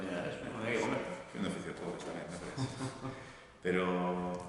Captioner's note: laughs